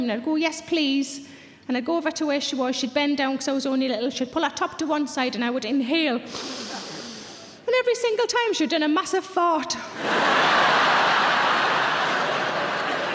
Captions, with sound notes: And I'd go, "Yes, please." And I'd go over to where she was. She'd bend down 'cause I was only little. She'd pull her top to one side and I would inhale, (Sarah inhales) and every single time she'd done a massive fart. (audience laughs)